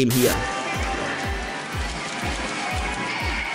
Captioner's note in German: Vielfache elektronische Geräusche